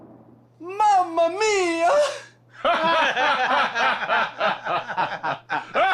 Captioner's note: detectives laughing